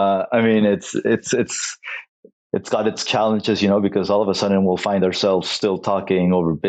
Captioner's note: laughs